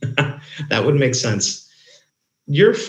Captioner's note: laughs